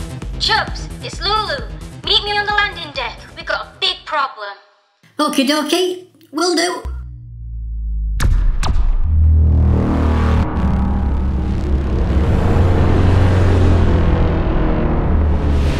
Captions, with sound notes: "Chubz, it's Lulu. Meet me on the landing deck. We've got a big problem!" Okie dokie! Will do. [Short lightning strikes] [Massive slow warped space swell]